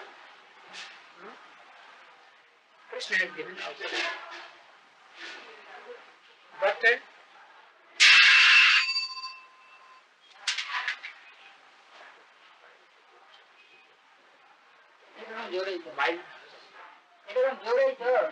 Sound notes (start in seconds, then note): 8.6 bell rings; 9.2 Hindi